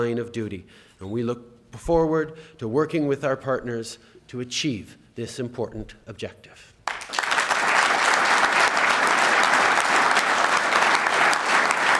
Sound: applause

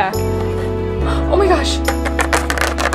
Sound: gasp

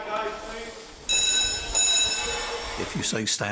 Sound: bell rings

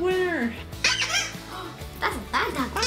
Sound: squeak

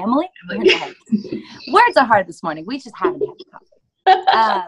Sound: laughter

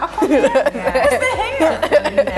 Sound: Ella laughing

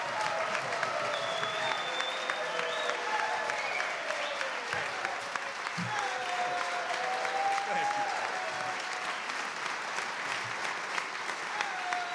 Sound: cheers and applause

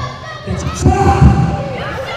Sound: crowd

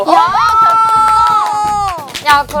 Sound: screaming!

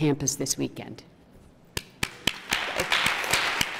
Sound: applause

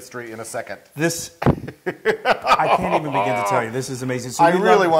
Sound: laugh

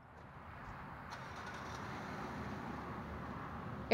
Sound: car engine starting

